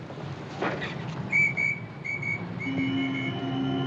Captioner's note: doorman whistles